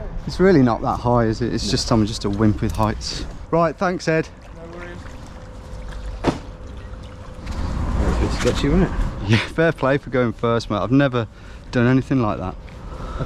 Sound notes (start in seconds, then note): 6.2 bag thuds